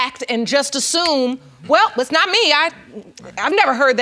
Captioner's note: snaps fingers